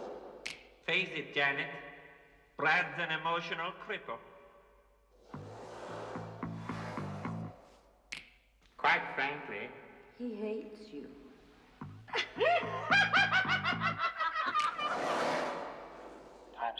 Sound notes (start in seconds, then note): 12.1 Оба смеются